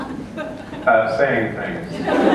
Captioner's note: laughter